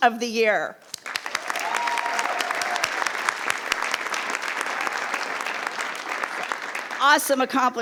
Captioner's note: attendees applauding; attendees cheering